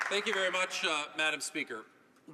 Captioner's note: applause